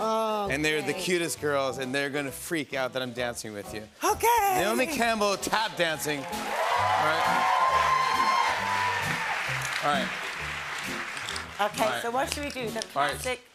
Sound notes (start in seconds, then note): 6.0 cheers and applause